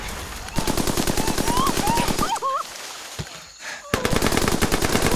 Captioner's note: whimpering